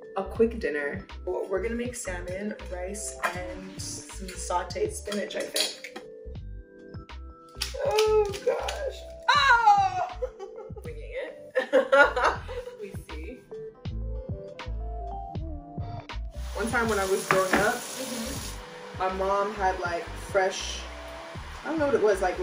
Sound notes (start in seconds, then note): 9.2 yells in surprise; 9.8 chuckles; 14.3 chill Lofi music